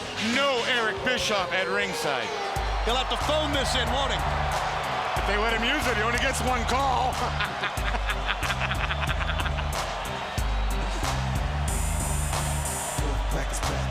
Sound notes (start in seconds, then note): 7.8 commentators laughs; 10.7 upbeat trap music